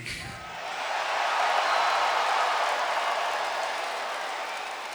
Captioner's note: crowd cheering